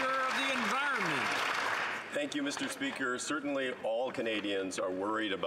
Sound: some Applause

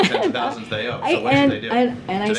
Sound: laughs

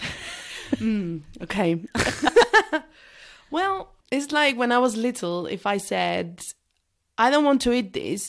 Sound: laughs

